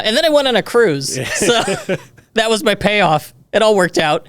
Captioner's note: laughs